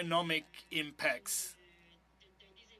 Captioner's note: speaking French